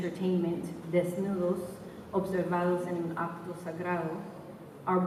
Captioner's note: spanish